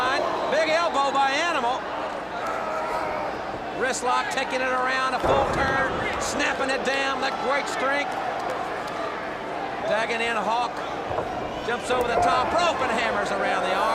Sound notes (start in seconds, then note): 3.2 crowd chatter